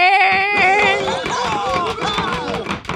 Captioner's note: hockey sticks tapping; cheering